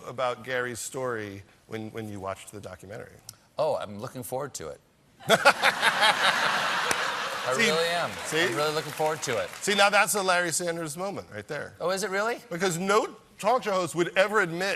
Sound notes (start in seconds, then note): 5.2 laughter